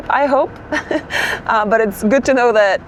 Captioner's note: chuckles